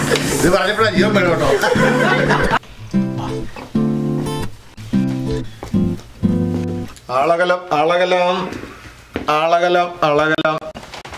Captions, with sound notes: There's some life only after saying that! [laughs] Come on. "Look out. Look out." "Look out. Look out."